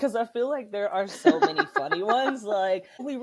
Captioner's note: laughter